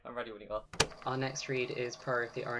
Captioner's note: tape recorder clicks